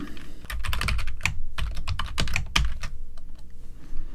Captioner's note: keyboard clacking